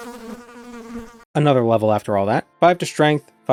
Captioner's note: flies buzzing